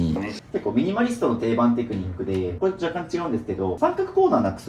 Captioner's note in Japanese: 咳払い